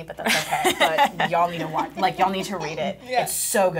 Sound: laughing

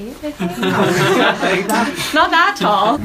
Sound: people laughing

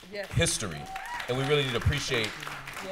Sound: applause

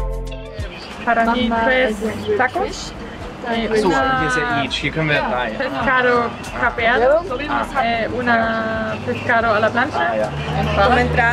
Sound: in Spanish

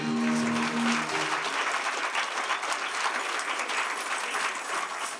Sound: applause

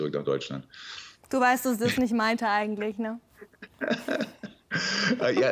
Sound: both laugh

